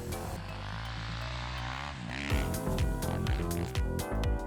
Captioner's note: bike engine revving; upbeat music